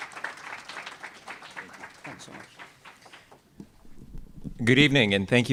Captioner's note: applause